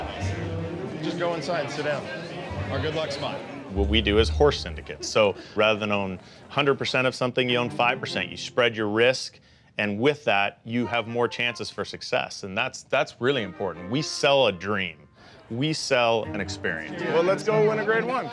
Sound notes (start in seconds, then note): none